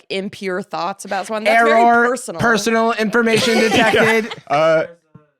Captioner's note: robotically